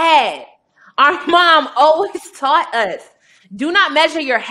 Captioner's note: chuckling